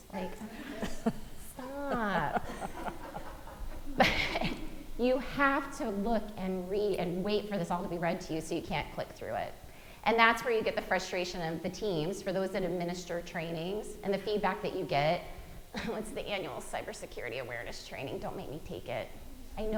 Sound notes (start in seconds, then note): 1.7 audience laughing